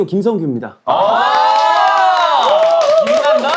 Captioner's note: cheering